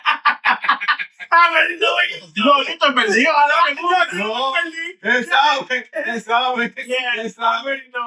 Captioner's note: laughing; speaking In Foreign Language